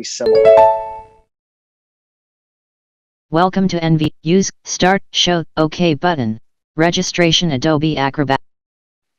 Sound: screen reader voice

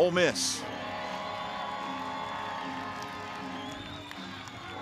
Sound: crowd cheering

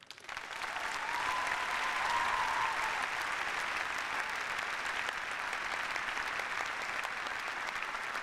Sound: applause

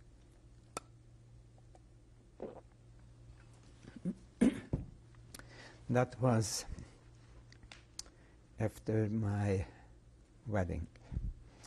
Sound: drinks

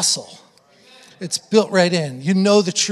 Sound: congregation affirming

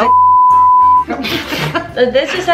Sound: laughs

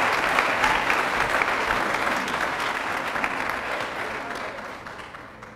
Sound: applause

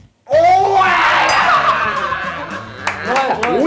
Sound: screaming

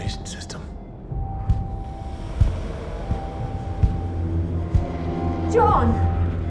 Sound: computer chiming quietly

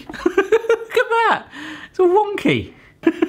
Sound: giggling

